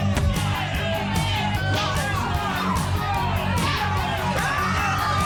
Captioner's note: people yelling